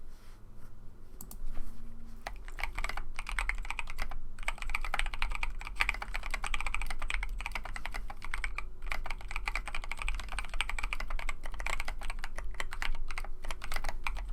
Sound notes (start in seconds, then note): 2.2 typing sounds